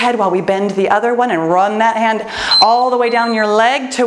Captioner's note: timer beeps